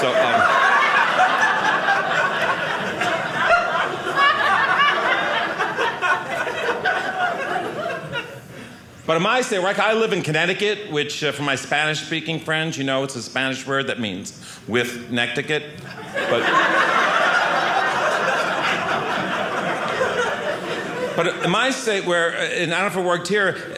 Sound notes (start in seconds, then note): 0.0 audience laughing; 17.4 audience laughing